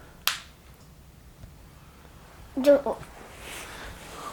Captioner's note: markers clicks